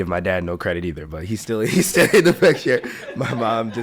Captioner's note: laughs